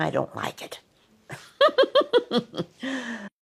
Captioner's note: giggles